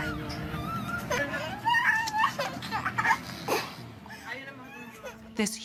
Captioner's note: child crying